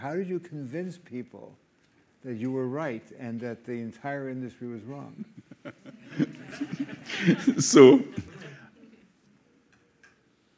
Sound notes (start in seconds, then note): 5.3 and crowd laughs